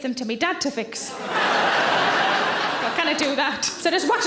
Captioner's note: audience laughing